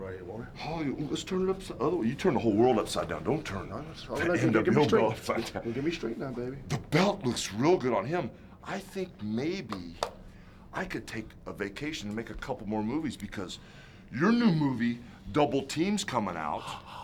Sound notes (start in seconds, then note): 3.4 laughs